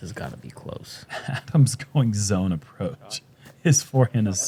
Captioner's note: chuckles